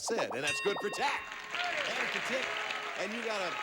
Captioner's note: audience applauding